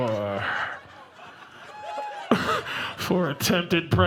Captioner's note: audience laughing